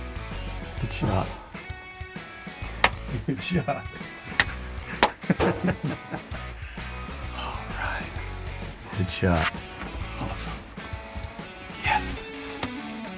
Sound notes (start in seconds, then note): 4.0 smacks legs; 4.8 both laugh